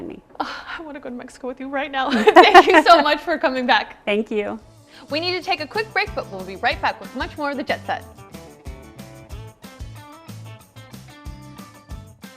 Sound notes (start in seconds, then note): 2.2 laughs; 8.2 upbeat music